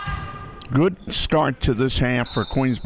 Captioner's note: referee blows whistle